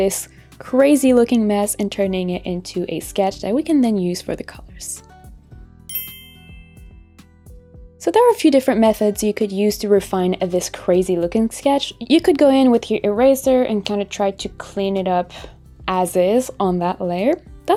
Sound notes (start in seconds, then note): 5.9 clinks